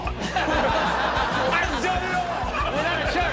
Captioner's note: audience laughs